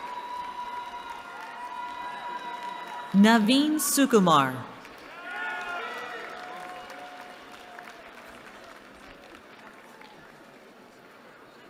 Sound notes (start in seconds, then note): 4.8 applause